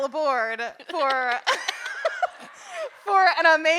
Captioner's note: audience laughing; hosts laughing